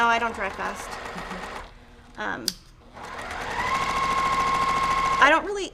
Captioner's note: sewing machine roaring